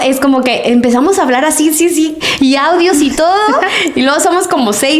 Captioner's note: laughs